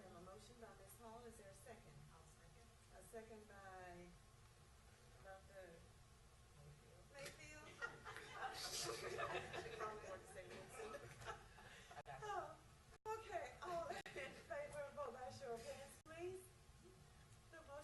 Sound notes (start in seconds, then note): 9.4 laughs